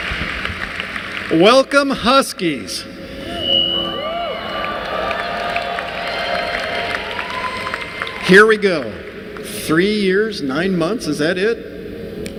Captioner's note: applause; applause